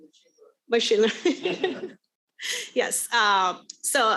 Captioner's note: laughs